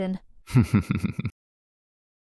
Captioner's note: laughs